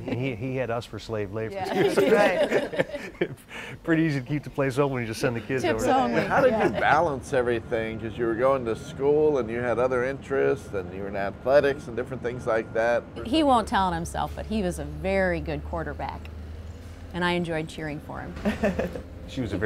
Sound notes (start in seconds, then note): 1.6 laughs; 5.4 laughs